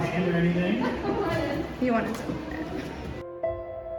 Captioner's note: laughs